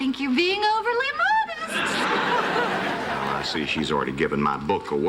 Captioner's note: laughter